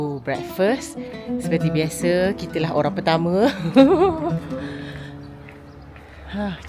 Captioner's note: laugh